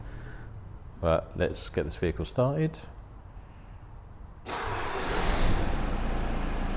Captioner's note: van starts